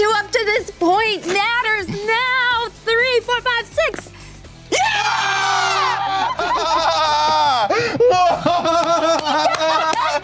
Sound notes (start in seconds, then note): 4.7 cheering and laughing